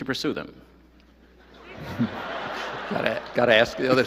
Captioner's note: audience laughs